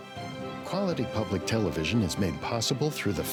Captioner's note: voiceover